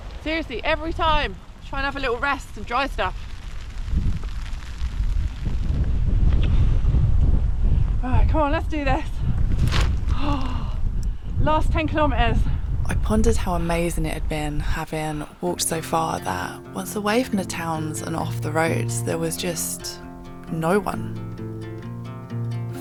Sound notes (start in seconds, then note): 0.0 rain; 6.0 deep breath; 9.6 umbrella pops up